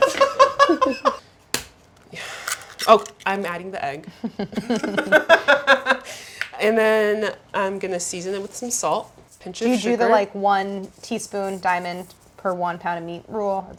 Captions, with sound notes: Gonna feed the cat. Oh, I am adding the egg. (both laughing) And then I'm gonna season it with some salt. Pinch of sugar. - Do you do the one teaspoon diamond per one pound of meat rule?